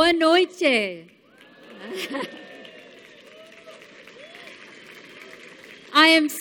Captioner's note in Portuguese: Aplausos